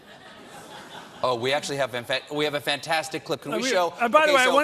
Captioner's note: laughter